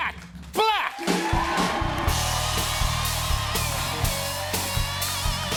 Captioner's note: cheers and applause